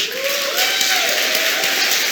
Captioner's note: applause